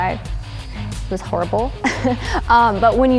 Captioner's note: laughing